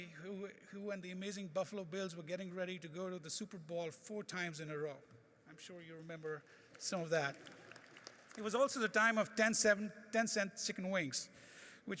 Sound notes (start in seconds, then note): 6.7 audience applauding